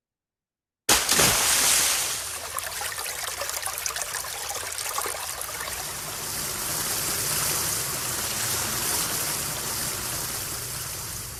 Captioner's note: water sloshing